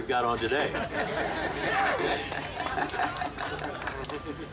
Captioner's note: group laughing